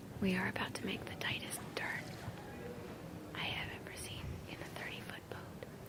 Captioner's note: whispering